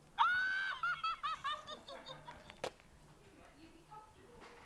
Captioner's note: Elmo laughing hysterically